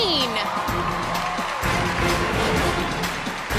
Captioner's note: cheers and applause